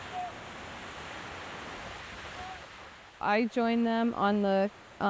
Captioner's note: water rushing